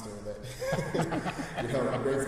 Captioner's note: chuckling